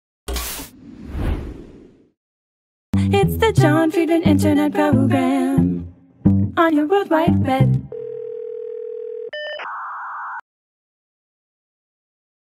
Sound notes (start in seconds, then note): 7.9 phone ringing; 9.3 modem sound effect